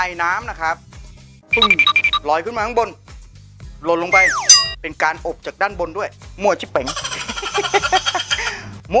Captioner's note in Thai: เสีงหัวเราะ